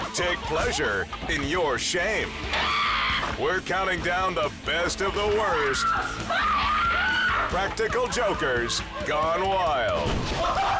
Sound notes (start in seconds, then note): 2.6 person screams; 5.7 person screams; 10.2 people cackling